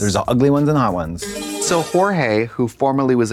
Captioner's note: bright chime